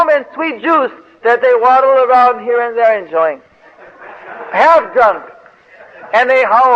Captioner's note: devotees laugh